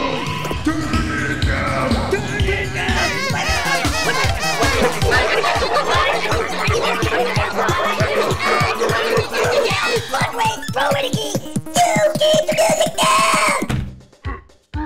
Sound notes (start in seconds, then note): 3.0 squeaking horn sounds; 6.2 high pitched, gibberish yelling; 13.6 door slams; 14.6 grunts; 14.6 roars